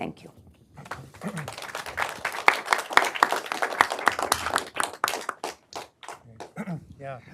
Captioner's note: applause